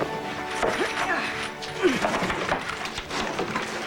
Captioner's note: groaning with effort